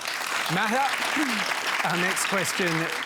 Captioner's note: applause